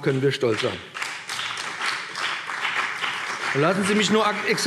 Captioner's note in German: Beifall BÜNDNIS 90/DIE GRÜNEN